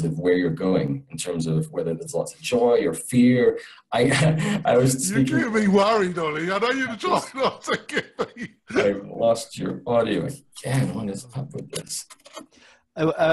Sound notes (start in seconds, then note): 7.6 laughs